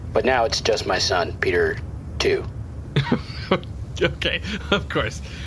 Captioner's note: laughing